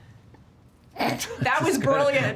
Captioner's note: snorting